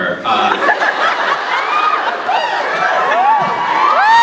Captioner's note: laughs; laughs, cheers; cheers; laughs